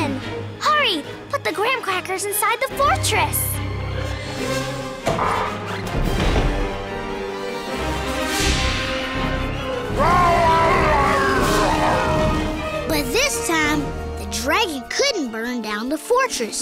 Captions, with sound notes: Hurry, put the graham crackers inside the fortress! [roaring] But this time, the dragon couldn't burn down the fortress.